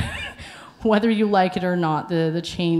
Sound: laughs

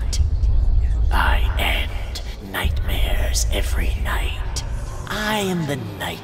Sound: menacing voice

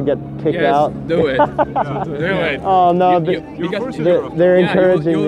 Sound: laughing

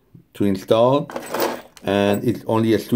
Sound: parts clanging

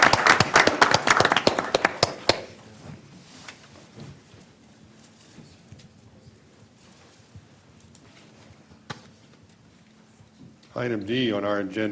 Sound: applause

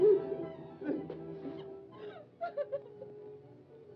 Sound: June sobs

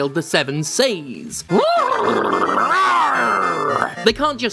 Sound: horse and Pirate noises mashed together

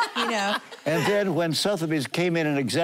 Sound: laughing

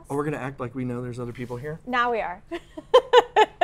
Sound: laughs

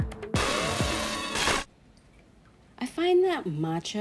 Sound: upbeat electronic music; scrambled noise cuts off music

